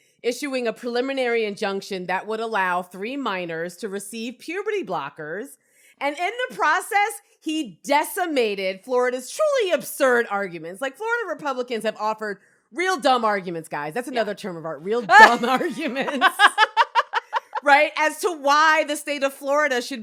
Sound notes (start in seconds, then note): 15.1 both laugh